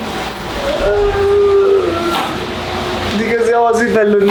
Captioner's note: wailing